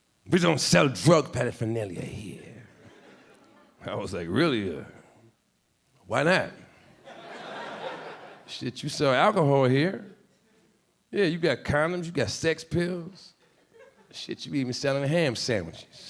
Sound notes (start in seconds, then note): 2.8 a few audience members laughing; 7.0 audience laughing